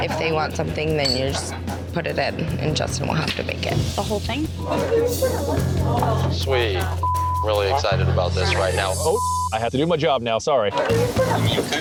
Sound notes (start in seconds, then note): 8.4 beep